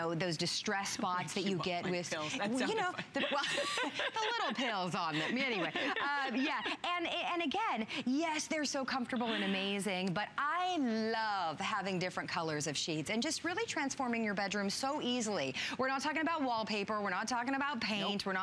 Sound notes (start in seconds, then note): 7.5 laughter; 9.2 laughter